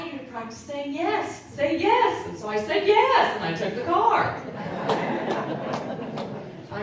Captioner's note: audience Laughing